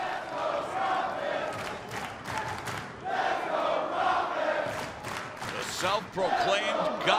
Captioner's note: crowd cheering